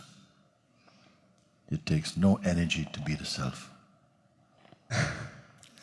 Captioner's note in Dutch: lacht